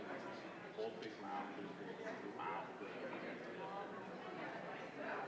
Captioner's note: indistinguishable chatter